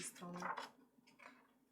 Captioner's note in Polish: szelest kartki